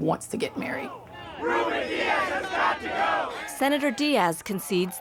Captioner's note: protestor's chanting